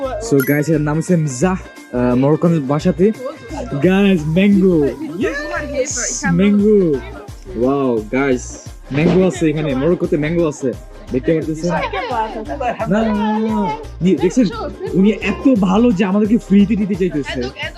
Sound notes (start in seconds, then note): 11.9 foreign language